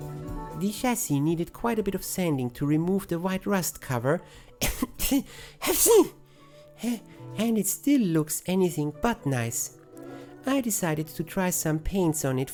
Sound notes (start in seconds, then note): 5.5 cough, sneeze